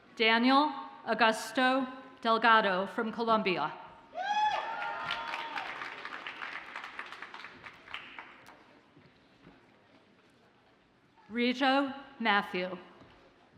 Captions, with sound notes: Daniel Augusto Delgado from Columbia. (audience cheers and applauds) Rejo Matthew.